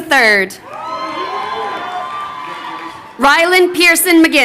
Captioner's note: crowd cheering